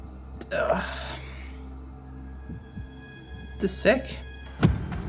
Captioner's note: sighs